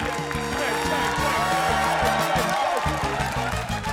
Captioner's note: chants